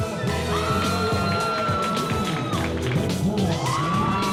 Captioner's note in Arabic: تصفيق